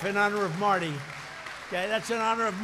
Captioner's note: applause